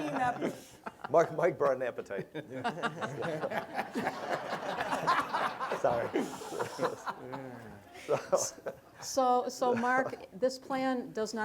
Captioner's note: laughter